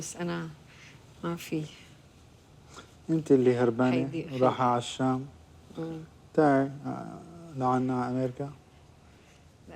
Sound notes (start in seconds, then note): 3.1 speaking in foreign language